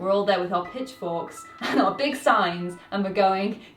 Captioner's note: laughs